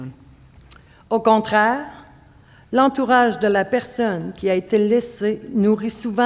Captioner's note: speaking French